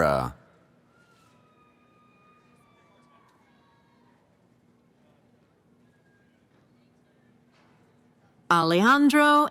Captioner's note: cheering